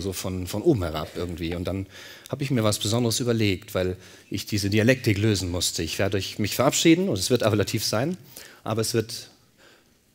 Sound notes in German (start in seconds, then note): none